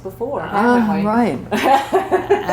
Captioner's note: laughter